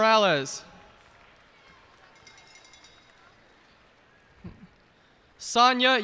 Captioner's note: cheers and applause